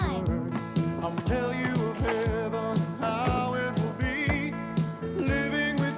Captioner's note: ball bouncing